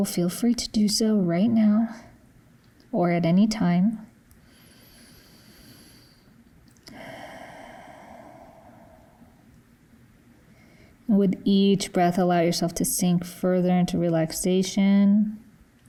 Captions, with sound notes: feel free to do so right now or at any time. (breathing deeply) With each breath, allow yourself to sink further into relaxation,